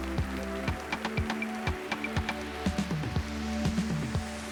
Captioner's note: applause